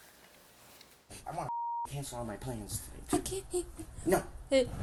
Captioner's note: beep